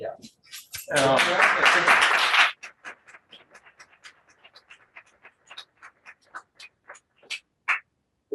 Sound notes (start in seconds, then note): 0.8 audience applauding